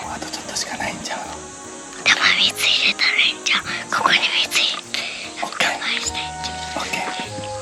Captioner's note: they talk in a whisper for some reason